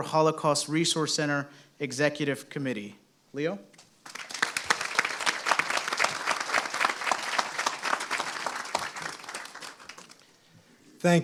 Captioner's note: applause